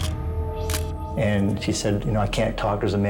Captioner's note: camera shutter click